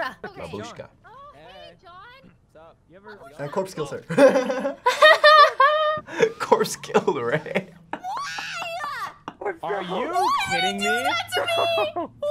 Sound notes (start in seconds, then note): 4.0 laughs